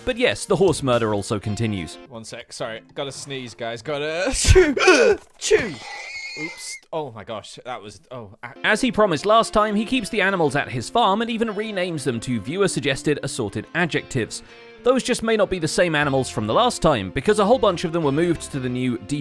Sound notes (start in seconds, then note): 4.1 horse squeals